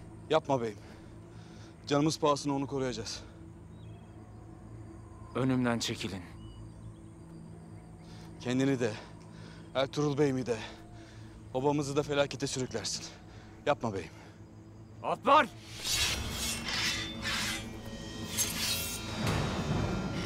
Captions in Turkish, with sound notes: Yapma beyim. Canımız pahasına onu koruyacağız. Önümden çekilin. Kendini de, Ertuğrul Bey’imi de… …obamızı da felakete sürüklersin. Yapma beyim. Alpler! (Kılıç çekme sesleri)